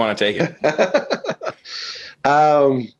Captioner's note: laughs